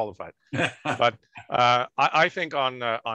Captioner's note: laughing